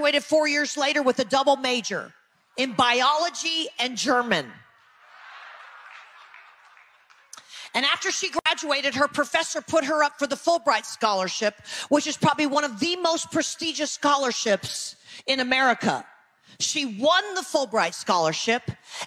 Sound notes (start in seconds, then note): 4.8 audience laughing